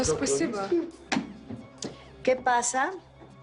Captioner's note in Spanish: Murmullo